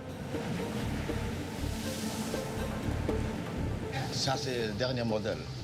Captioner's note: water splashing; captain speaking foreign language